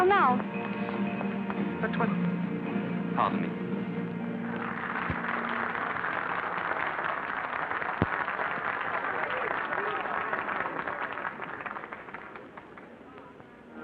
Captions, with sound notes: Oh, there's my uncle now! But-- but pardon me. [applause]